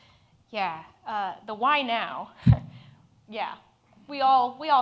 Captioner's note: chuckles